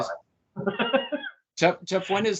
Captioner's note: laughs